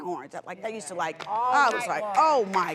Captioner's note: audience murmurs